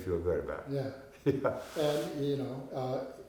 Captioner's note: chuckling